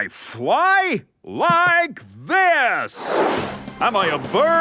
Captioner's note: whooshing